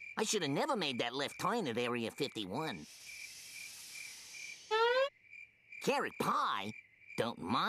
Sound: none

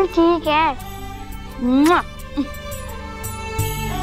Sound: kissing; happy music

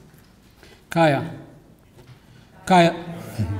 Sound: speaks greeting in language; audience responds

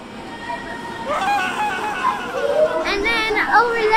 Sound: SFX - Funny Scream/Water Splash

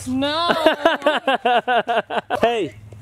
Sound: laughing

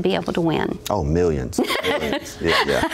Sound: laughs

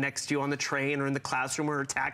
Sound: foreign language

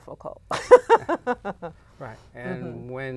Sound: laughter

